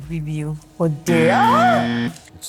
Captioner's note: exclaims